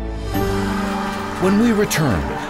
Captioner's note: group cheering